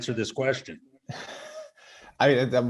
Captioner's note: laughing